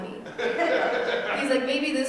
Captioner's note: audience laughing